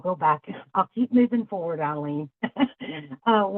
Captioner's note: laughs